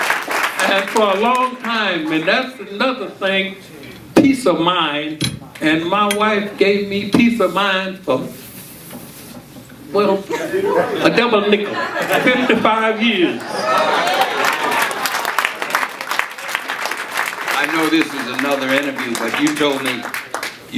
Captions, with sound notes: - And for a long time, and that's another thing, peace of mind, and my wife gave me peace of mind for, well, a double nickel, 55 years. (audience cheering and applauding) - I know this is another interview, but you told me